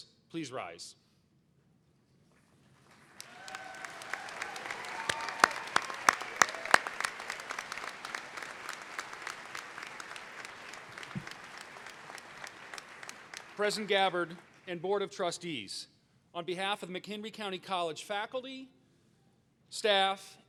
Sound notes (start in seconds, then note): 4.9 applause